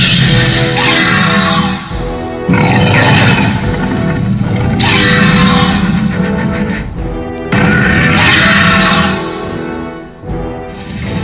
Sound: Raptors communicating with Indominus

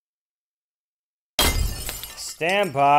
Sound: crash

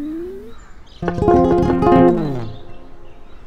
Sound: knocking

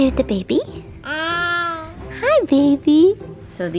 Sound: babbling

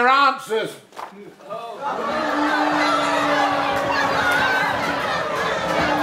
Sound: crowd erupts again

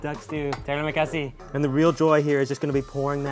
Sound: speaks in foreign language

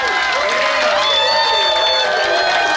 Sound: crowd cheering

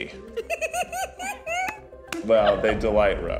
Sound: laughing

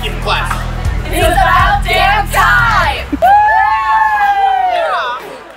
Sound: cheering

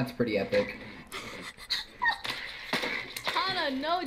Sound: laughing

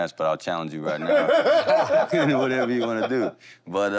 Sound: laughter

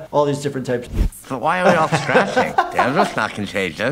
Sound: laughter

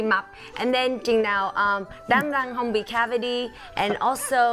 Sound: speaking foreign language

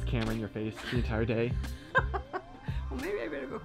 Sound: laughs

